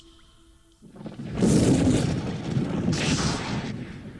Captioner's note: lightning Sounds